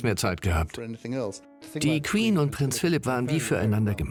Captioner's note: voiceover